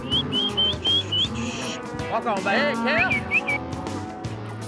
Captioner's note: whistling; shouting